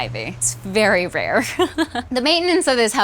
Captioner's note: laughing